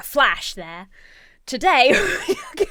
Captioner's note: laughs